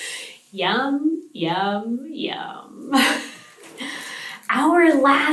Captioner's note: laughs